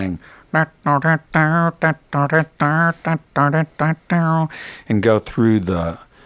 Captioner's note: imitating guitar playing